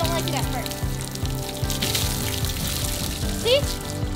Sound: water spraying

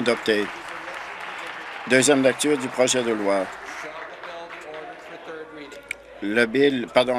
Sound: applause

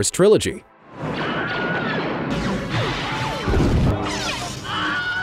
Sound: frightful screaming

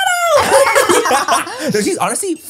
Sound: everyone laughs

